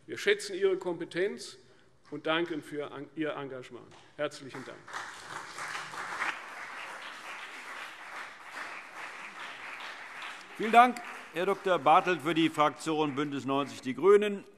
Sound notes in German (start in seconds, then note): 4.6 Beifall CDU und BÜNDNIS 90/DIE GRÜNEN